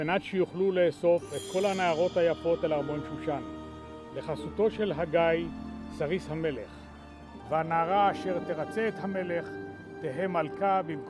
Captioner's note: speaking Hebrew